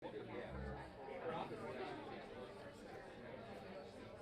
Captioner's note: audience chattering